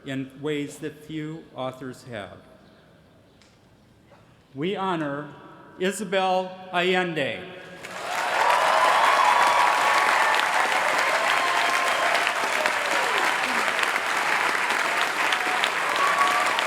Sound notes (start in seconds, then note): 7.8 applause